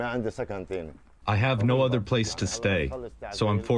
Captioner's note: through translator